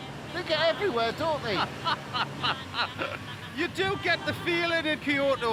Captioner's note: laughs